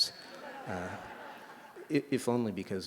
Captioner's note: laughter